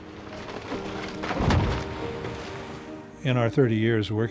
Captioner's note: granite thuds